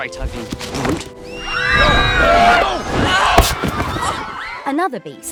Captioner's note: screaming